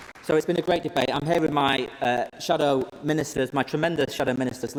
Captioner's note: applause